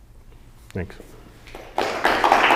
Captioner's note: applause